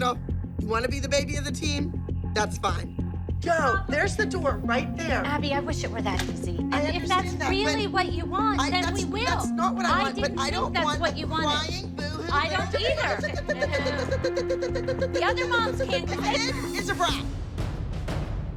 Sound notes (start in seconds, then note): 12.9 makes chirping sound